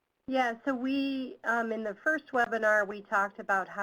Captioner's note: voiceover